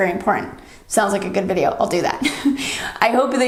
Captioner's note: chuckles